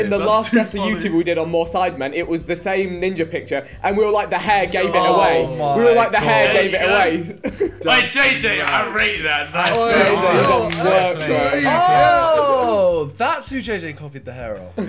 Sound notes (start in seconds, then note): 7.0 laughing; 9.6 Sidemen chattering